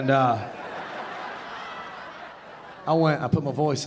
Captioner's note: audience laughing